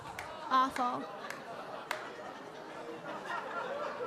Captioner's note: audience laughing